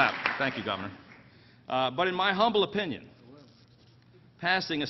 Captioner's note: applause